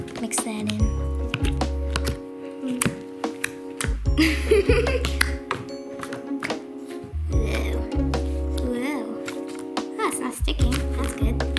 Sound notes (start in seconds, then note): 1.9 slime crunching; 4.2 laughs